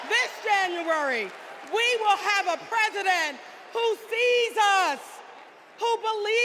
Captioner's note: cheers and applause